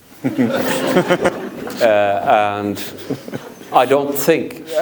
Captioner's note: audience laughs